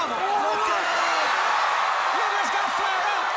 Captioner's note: crowd cheering